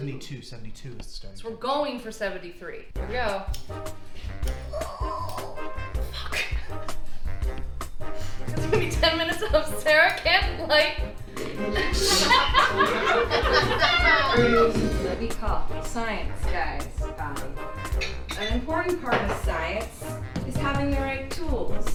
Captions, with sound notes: - 72, 72 is the starting point. - We're going for 73. Here we go. (jazzy music) Fuck. That's gonna be 10 minutes of Sarah can't light- (audience laughs) -Here is what we call science, guys. An important part of science is having the right tools.